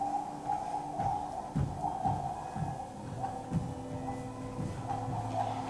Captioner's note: footsteps thumping